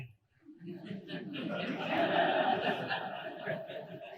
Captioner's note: audience laughing